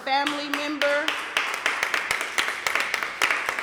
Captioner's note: applause